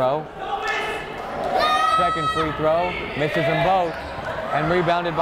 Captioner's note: yelling